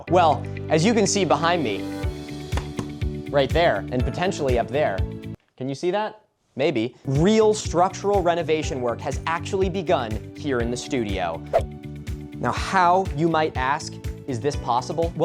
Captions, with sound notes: Well, as you can see behind me, [slapping] right there and potentially up there, can you see that? Maybe. real structural renovation work has actually begun here in the studio. [abrupt woosh] Now, how, you might ask, is this possible?